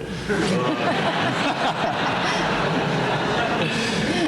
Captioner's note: laughter